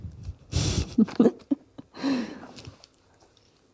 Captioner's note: laughter